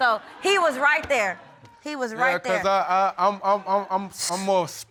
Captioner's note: stuttering